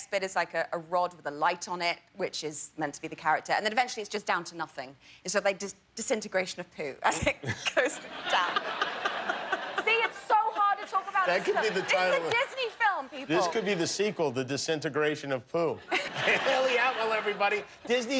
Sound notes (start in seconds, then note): 12.4 laughter